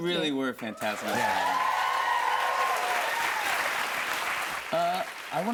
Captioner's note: cheers and applause